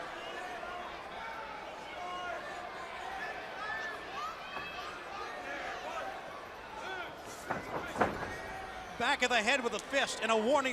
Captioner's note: crowd chatter